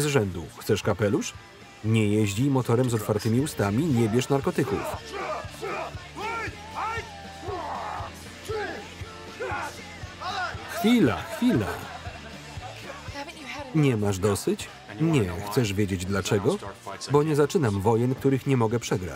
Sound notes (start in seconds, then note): 4.6 grunting; 10.2 laughing